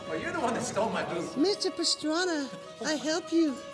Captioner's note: bad japanese accent